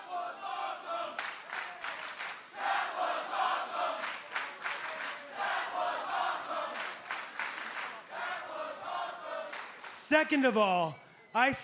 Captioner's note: crowd cheering